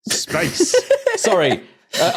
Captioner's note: giggles